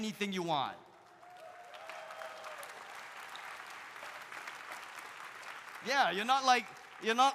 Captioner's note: audience applauding; audience cheering